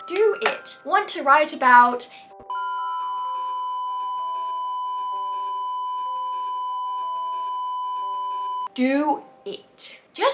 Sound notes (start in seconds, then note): 2.5 beep